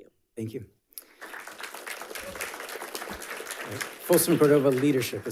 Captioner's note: audience applauding